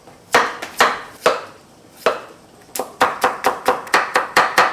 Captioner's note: knife chopping